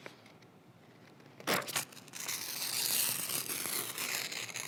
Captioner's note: pages ripping